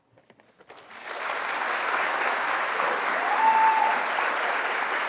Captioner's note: audience applauds